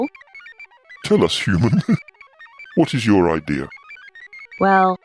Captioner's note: laughs